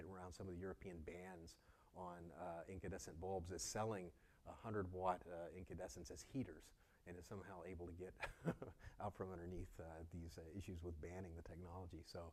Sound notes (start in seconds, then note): 8.2 laugh